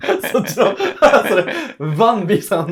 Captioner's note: laughing